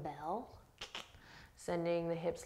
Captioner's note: clicking tongue